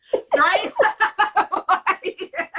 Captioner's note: laughter